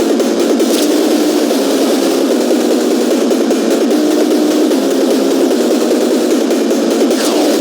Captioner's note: shooting Orbs